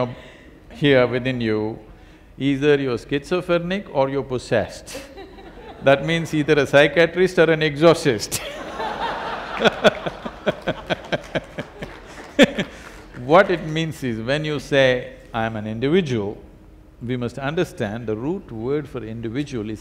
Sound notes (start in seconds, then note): 5.0 laughter; 8.4 laughter/Applause